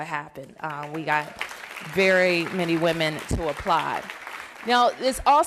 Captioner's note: applause